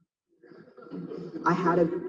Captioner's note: audience laughing